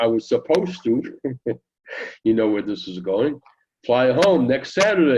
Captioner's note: chuckling